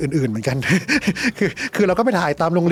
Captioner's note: laughs